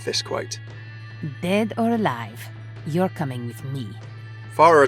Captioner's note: voiceover